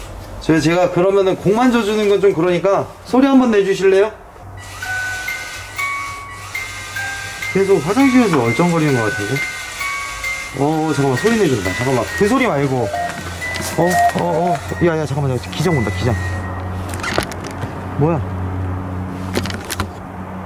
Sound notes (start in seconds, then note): 13.9 Ghost Tube Warning Sound